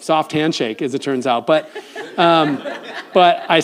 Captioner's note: audience laughs